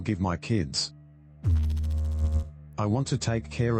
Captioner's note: electrical noise